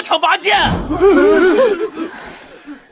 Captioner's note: cough cough